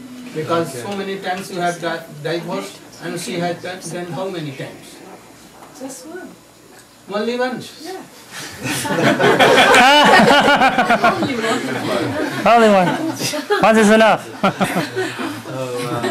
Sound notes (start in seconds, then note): 8.6 laughter; 15.8 laughter